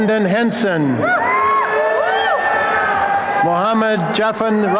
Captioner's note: applause and cheering